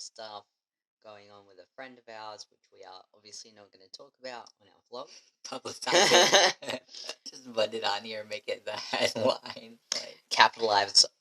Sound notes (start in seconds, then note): 5.9 laughing